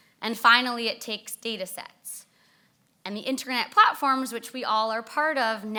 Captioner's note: none